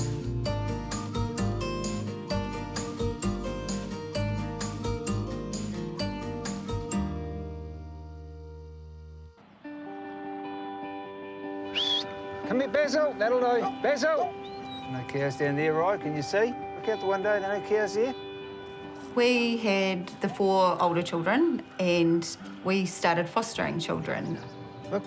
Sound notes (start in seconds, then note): 9.8 laid-back music; 11.6 whistles